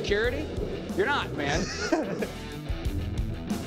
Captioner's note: laughter